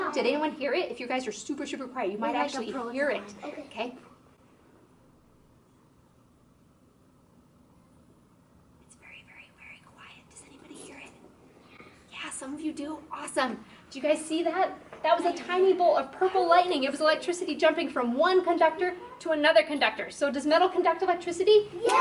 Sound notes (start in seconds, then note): 9.1 whisper